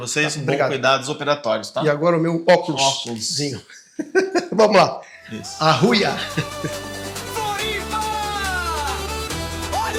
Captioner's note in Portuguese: risadas